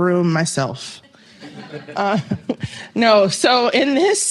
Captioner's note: laughter